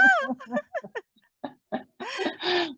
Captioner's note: laughs